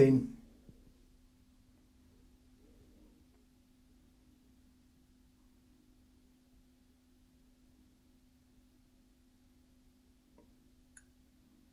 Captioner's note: silence